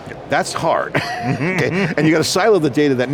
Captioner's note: laughs